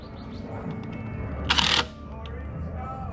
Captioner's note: more screwing noise/attaching the antenna rod